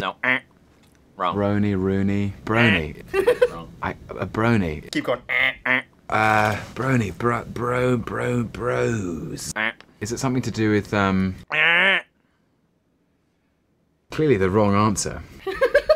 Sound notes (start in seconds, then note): 3.0 laughs